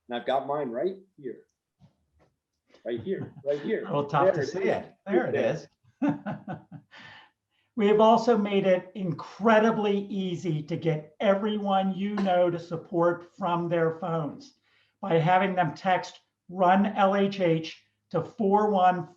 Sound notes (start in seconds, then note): 2.8 laughs; 6.0 laughs